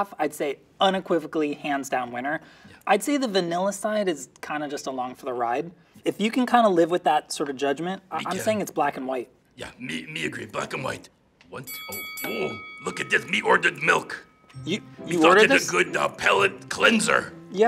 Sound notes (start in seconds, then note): 11.6 bell pings